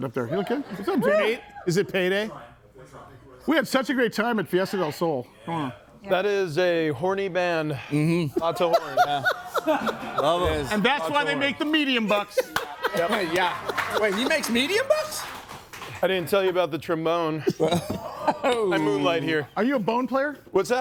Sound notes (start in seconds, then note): 8.4 laughs; 12.4 audience applauds